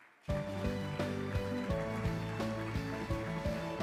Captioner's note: crowd clapping; energetic music